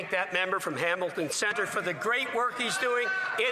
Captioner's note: some Applause